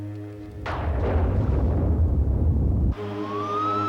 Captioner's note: thunderclaps